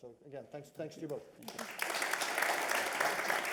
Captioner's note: applause